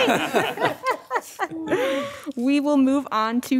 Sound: audience laughing

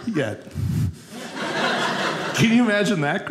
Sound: audience laughing

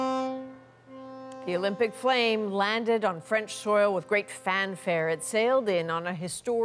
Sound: horn

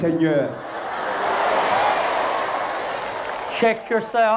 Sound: crowd cheering

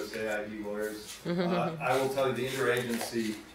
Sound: chuckles

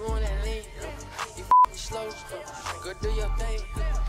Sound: beep

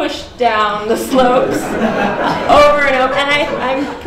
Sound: laughter

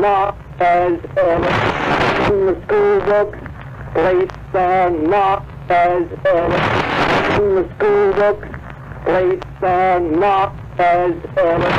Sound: record skips

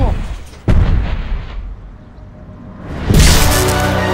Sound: stomping; sinister music

